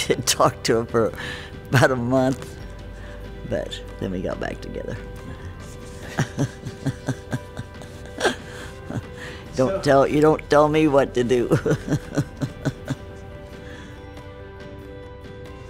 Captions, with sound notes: I didn't talk to him for about a month, but then we got back together. (laughs) You don't tell me what to do. (laughs)